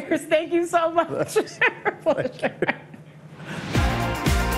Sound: both laughing; upbeat music

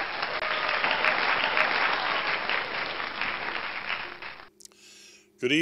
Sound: applause

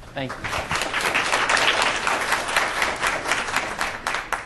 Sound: applause

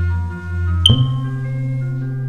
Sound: smoke Alarm Chirps

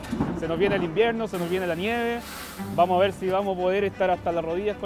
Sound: peanuts sizzle

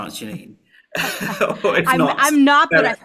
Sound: laughs

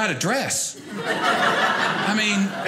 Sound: audience laughing

